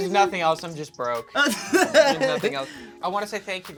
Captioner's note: laughs